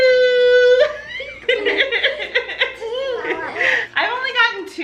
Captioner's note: everyone laughs